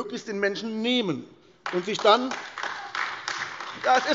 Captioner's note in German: Beifall AfD - Widerspruch DIE LINKE